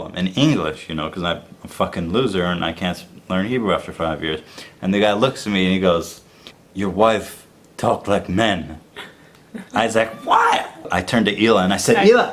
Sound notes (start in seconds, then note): 6.7 imitates Israeli accent